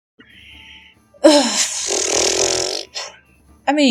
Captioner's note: sigh